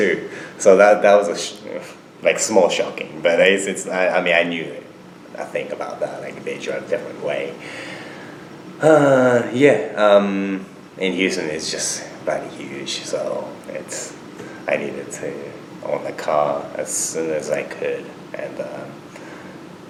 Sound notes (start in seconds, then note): 7.6 sighs